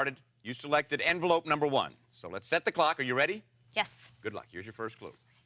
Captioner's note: none